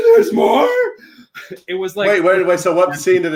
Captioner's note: laughs